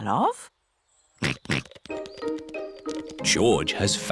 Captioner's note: snorts